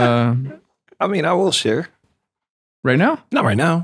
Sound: laughs

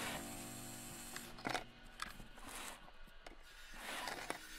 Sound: machines buzzing

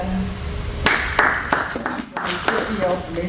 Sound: applause

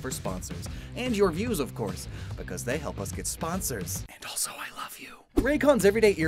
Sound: whispers

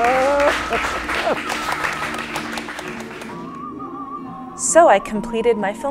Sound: applause

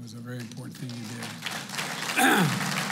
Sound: applause

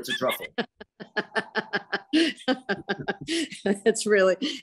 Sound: both laughs

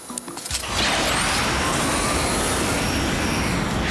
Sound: engine revving

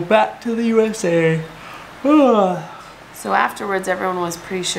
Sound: yawning

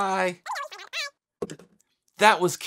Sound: voice squeaking over phone

